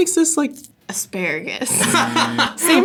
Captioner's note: laughs; buzzer